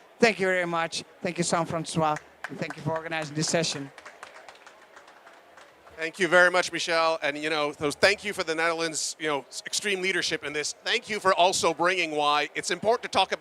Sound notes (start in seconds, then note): 2.1 applause